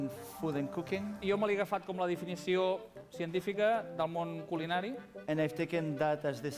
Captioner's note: non-english speech